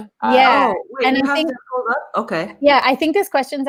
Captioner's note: murmurs